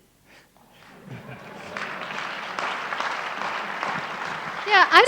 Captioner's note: audience applauds